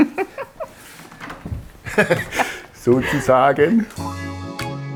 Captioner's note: laughter